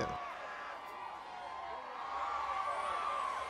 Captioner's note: crowd cheers